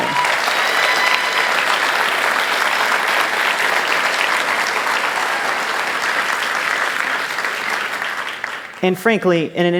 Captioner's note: applause